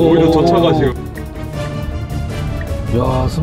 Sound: fancy Wheel Turning

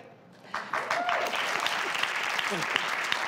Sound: audience claps

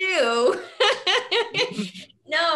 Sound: laughs

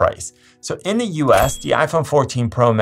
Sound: bell chimes

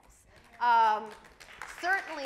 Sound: audience applauds

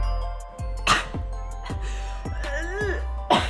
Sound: coughs

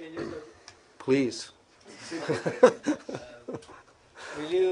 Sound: laughter

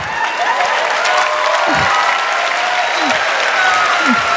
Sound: crowd cheering

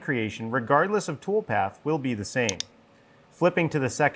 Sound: mouse clicking

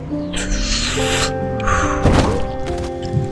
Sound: smoking sfx

